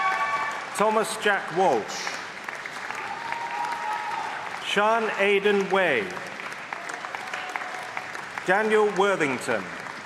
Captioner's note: applause; applause